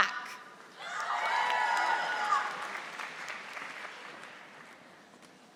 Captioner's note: audience applauding